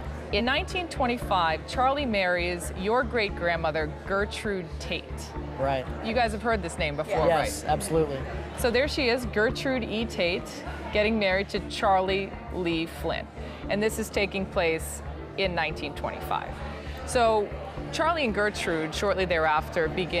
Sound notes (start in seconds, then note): none